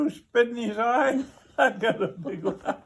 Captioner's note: laughs